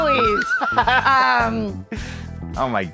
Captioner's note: both laughing